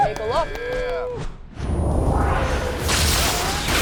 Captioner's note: whooshing; spells arcing